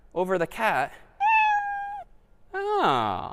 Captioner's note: meow